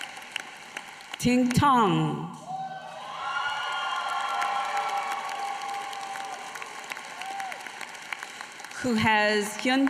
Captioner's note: applause